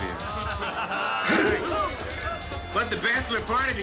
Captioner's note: hoot together